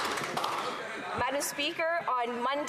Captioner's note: applause